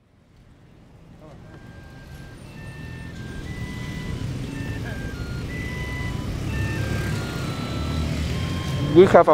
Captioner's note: soundbite of city ambiance